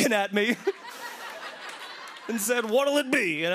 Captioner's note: laughter